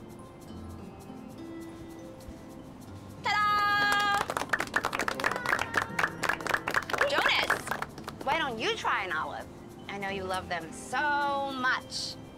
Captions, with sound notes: Ta-dah! (applause) Jonas, why don't you try an olive? I know you love them so much.